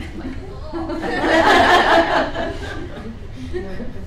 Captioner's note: laughing